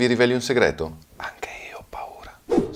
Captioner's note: whispering